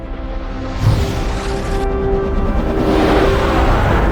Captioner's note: air whooshing